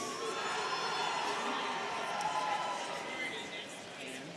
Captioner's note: students cheering